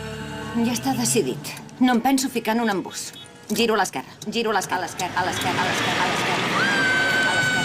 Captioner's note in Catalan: ECO: giro a l'esquerra, a l'esquerra